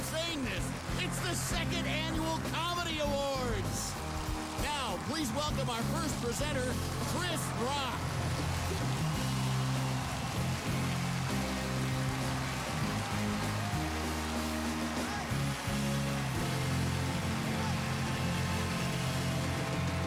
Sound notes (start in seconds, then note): 8.3 cheers and applause; 16.0 cheering continues